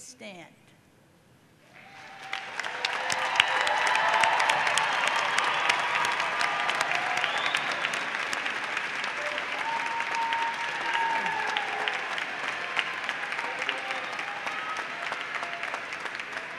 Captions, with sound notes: marshals, and Marshal captains who serve as leaders during these ceremonies. Would these faculty members stand and be recognized. >> [Applause] >> Thank you.